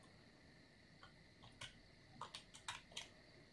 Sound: keyboard sounds

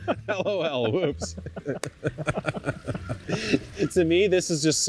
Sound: both laugh

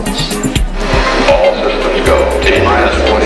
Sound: voiceover

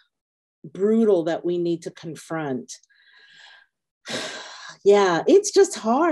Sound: sighing

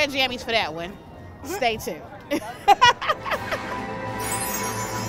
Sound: laughs

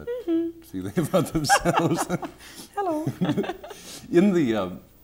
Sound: laughter

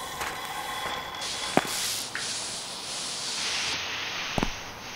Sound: rustling sound

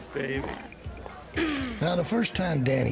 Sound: clears throat

